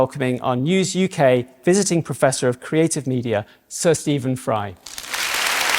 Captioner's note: applause